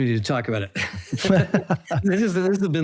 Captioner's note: both laugh